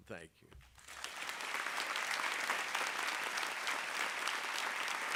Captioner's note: audience clapping